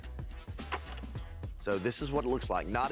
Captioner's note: film reel clicks